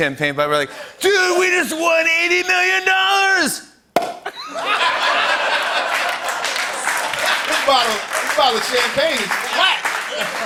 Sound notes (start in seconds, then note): 4.3 laughter and applause